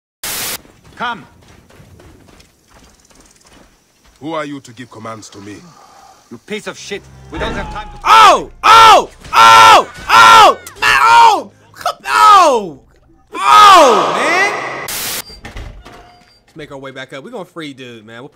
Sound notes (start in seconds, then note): 0.2 static; 8.3 screaming; 14.8 static